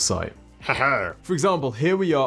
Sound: laughs creepily

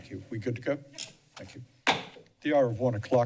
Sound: bangs gavel

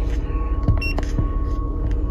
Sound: beep

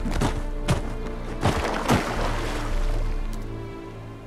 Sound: multiple thuds; splash

